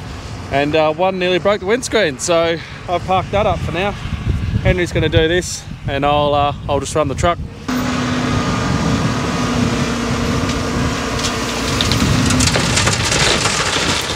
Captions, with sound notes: and one nearly broke the windscreen. So, I've parked that up for now. Henry's gonna do this, and I'll just run the truck. (motor rumbling)